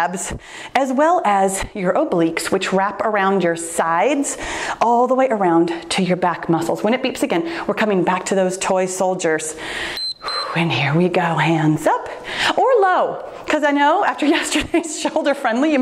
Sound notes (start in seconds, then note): 9.8 timer beeps